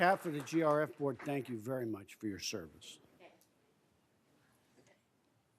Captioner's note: applause